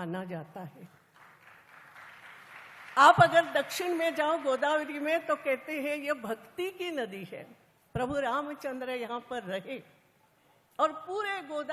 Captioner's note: applause